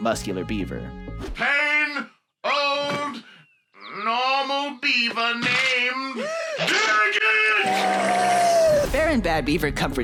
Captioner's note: Dag shrieks